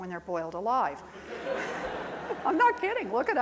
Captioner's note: crowd laughing